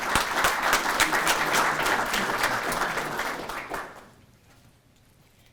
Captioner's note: audience applauding